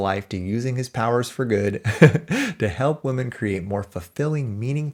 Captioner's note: chuckles